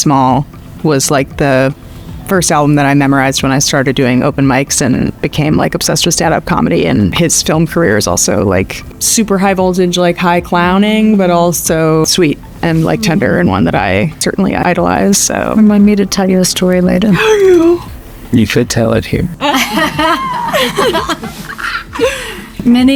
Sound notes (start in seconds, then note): 17.1 Hannah gasps; 19.4 Gillian laughs